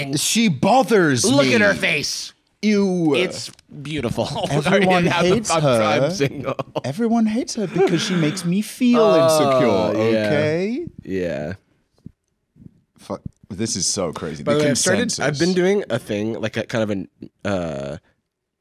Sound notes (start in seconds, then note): 7.4 laughing